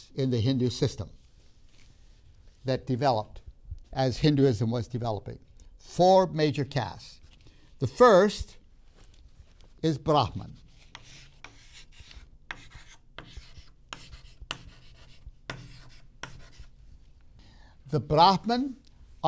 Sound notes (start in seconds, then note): 12.4 chalk scraping; 12.4 chalk tapping